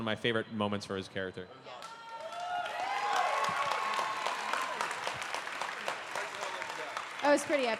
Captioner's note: cheering